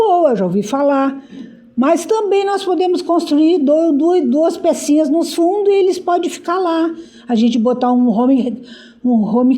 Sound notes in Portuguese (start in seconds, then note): 1.8 limpando a garganta